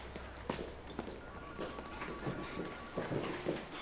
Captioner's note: phone ringing